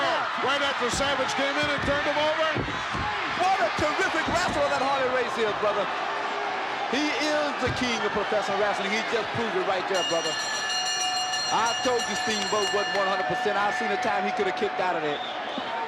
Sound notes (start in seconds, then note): 9.9 bell chimes